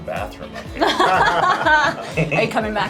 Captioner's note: laughs